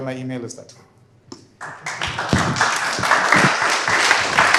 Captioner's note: applause